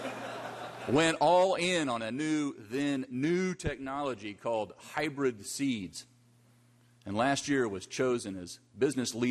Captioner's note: laughter